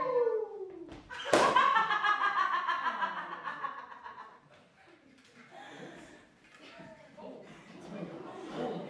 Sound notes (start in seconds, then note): 1.2 evil cackle